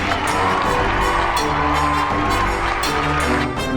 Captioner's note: applause